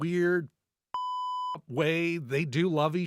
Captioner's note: beep